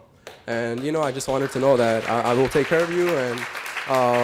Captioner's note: applause